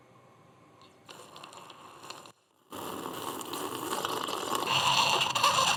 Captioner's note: slurping; intense slurping